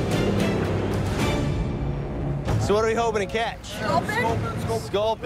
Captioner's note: boat horn blows